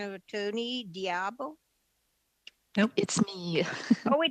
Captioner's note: speaking French